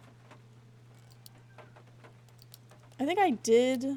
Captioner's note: floor Creaking